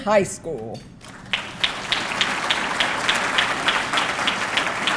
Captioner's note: audience clapping